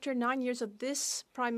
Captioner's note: speaking French